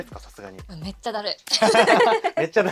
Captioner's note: laughs